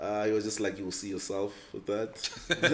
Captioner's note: everybody laughs